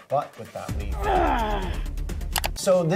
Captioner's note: coyote grunts